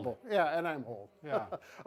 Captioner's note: laughs